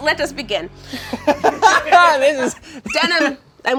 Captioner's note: laughs